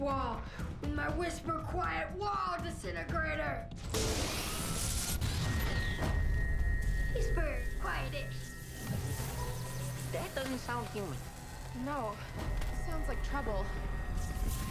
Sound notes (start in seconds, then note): 4.4 loud whirring; 8.4 whirring; 14.4 whirring